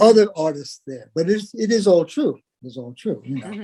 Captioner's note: laugh